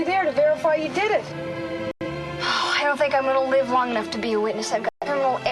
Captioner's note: sighing